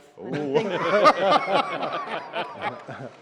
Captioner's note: laughter